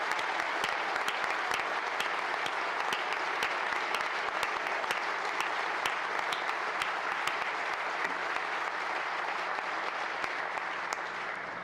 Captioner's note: applause